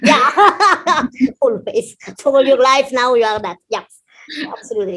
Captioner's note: laughs